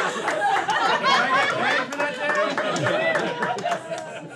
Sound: laughter and clapping

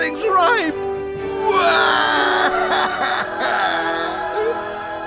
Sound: crying

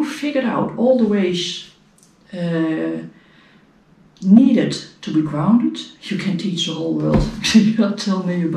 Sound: steps

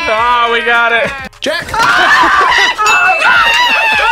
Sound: screams

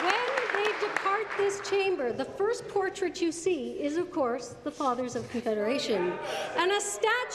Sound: applause

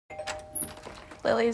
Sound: doorbell rings

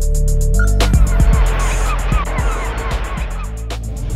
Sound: seaguls

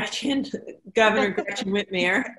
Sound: laughs

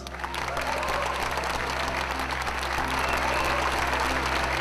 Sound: crowd cheers

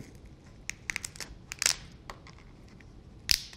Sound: cracking

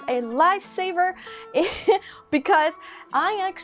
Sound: laugh

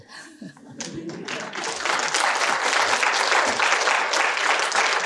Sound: audience applause

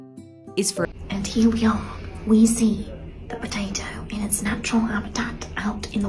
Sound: British accent

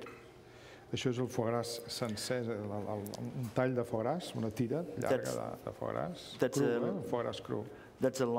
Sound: speaking catalan

